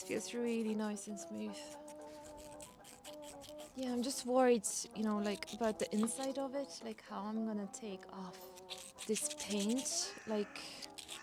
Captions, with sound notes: This feels really nice and smooth *sound of sandpaper* Yeah, I'm just worried, you know, like... about the inside of it. How I'm going to take off... This paint